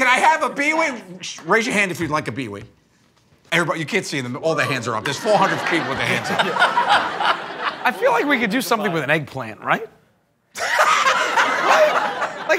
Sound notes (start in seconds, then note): 5.1 laughs; 10.5 laughter